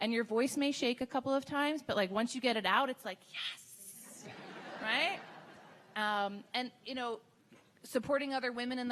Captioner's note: laughing